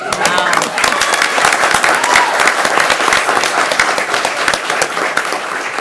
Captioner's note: attendees applauding and cheering